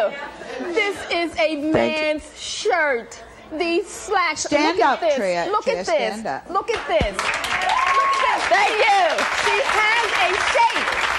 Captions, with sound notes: This is a man's shirt. These slacks, look at this. Stand up Tria. Tria, stand up. Look at this. (applause) Thank you! She has a shape, look.